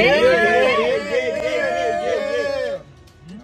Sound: cheering

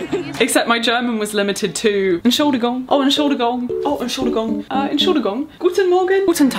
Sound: person giggles; speaking foreign language

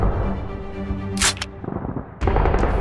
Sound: click

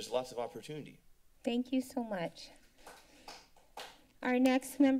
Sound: applause

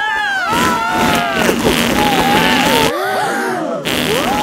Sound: both screaming; crowd gasps

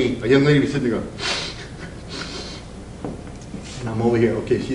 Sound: sniffs

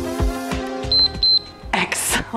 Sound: timer beeps

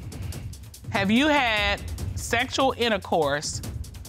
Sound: judge dana reading

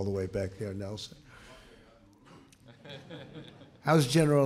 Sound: laughter

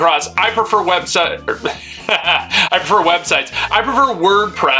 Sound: chuckling

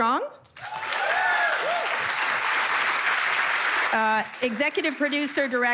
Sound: cheers and applause

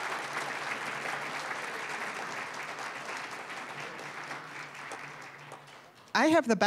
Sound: applause, cheering; applause

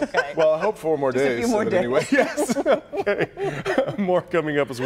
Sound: laughter

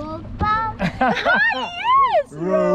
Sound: laughs

